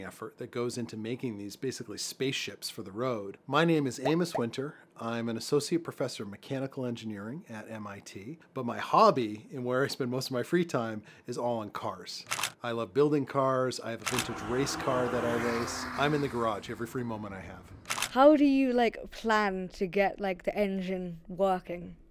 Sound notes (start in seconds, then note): 12.2 camera flash; 17.8 camera flash